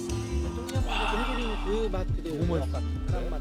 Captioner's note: exclaiming